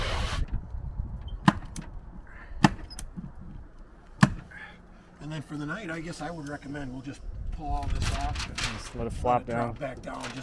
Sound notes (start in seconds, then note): 1.5 staple gun discharges